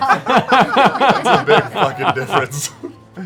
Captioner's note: laughter